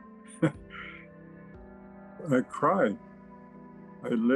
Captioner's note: chuckling